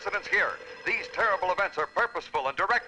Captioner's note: phone ringing